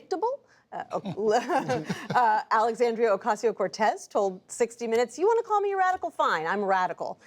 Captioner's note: laughter